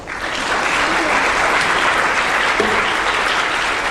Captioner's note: applause